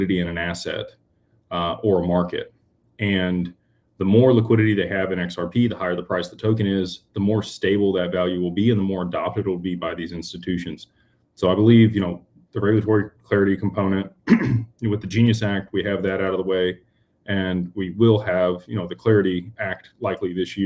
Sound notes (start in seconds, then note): 14.2 clears throat